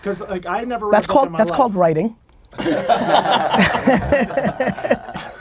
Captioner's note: group laughter